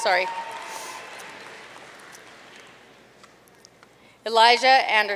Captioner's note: audience cheering and applauding